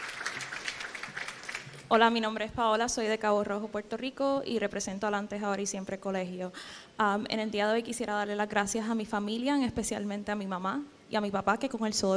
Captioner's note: speaking spanish